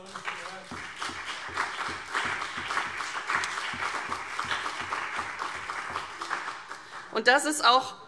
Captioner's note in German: Beifall CDU und BÜNDNIS 90/DIE GRÜNEN